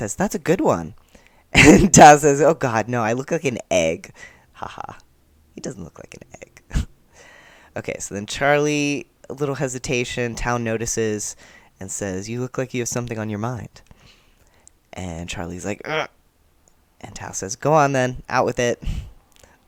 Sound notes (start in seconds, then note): 15.8 sound of surprise/dread